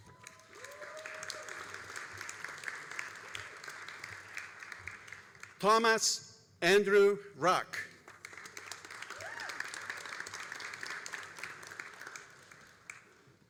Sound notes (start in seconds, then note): 0.0 all applauding and cheering; 8.0 all applauding and cheering